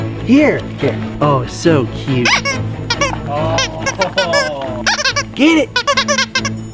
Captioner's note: squeaks toy